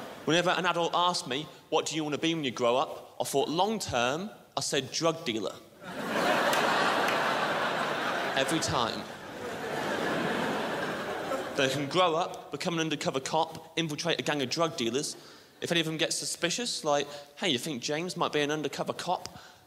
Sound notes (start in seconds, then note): 5.8 crowd laughs